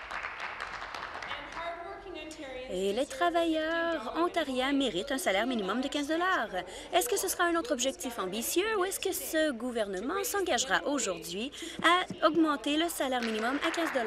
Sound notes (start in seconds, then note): 2.3 applause